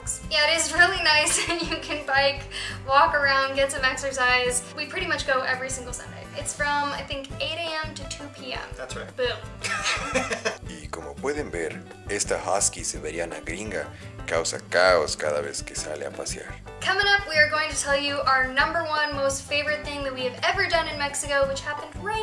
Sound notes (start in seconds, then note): 9.6 laughter